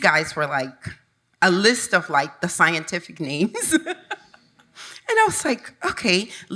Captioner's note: chuckles